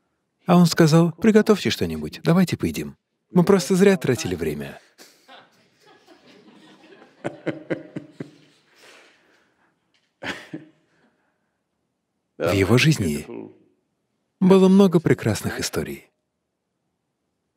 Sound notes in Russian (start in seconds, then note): 6.5 смех